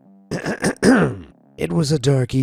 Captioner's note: narrator clearing throat